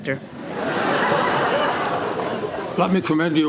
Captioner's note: laughter